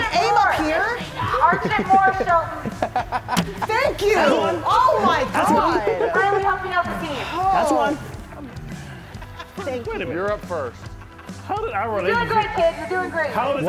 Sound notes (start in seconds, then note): 0.8 laugh